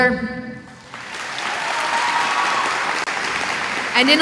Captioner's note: applause